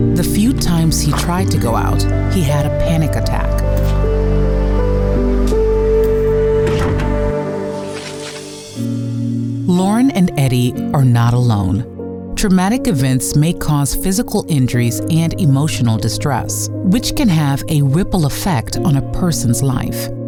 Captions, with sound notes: The few times he tried to go out, he had a panic attack. [door slams] [hopeful music] Lauren and Eddie are not alone. Traumatic events may cause physical injuries and emotional distress, which can have a ripple effect on a person’s life.